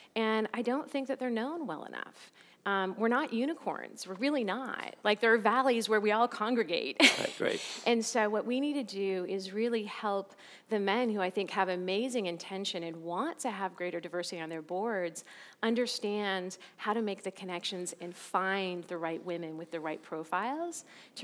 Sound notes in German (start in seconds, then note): 7.1 lacht